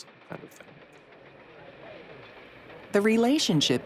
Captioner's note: train rumbling on track